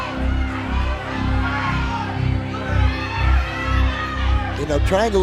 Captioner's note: audience cheering